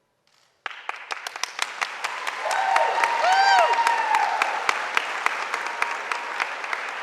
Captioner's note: audience applauding; audience cheering